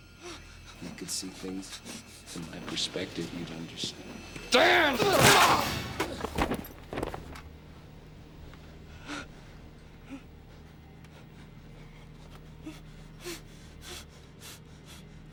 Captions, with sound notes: [ Panting ] IF YOU COULD SEE THINGS... FROM MY PERSPECTIVE, YOU'D UNDERSTAND. [ Groans ] [ Grunts ]